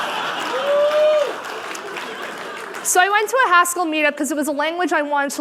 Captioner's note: laughter